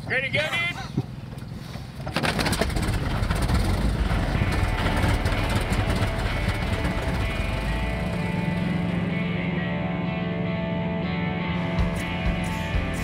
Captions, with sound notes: Ready to go, dude? (helicopter starts) (rock music)